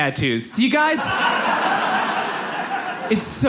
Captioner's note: audience laughs